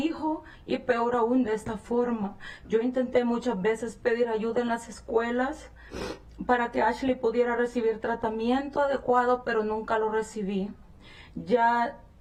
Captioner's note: speaking spanish